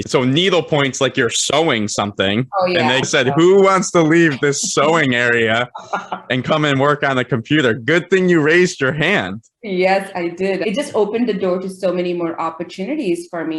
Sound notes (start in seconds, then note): 5.2 laughing